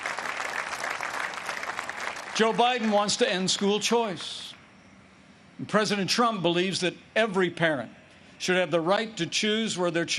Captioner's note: applause